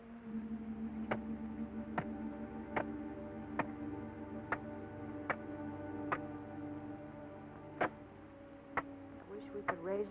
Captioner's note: soft music; pounding sound